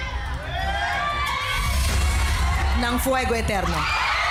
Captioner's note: indistinct screaming